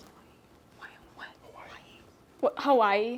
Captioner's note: whispering